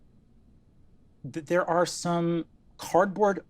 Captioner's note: none